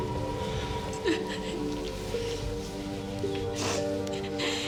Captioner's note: crying